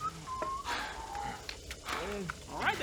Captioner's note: heavy breathing